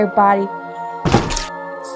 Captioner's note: chop!